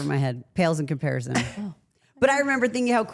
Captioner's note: Rhea laughs